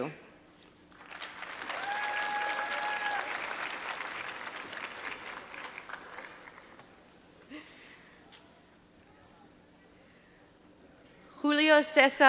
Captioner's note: applause